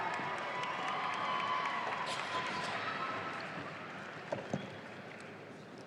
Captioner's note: audience applauding